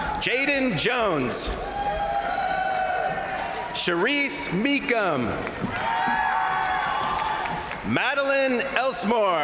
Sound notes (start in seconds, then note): 0.0 crowd cheering; 1.3 crowd cheering; 1.7 crowd applauding; 5.1 crowd cheering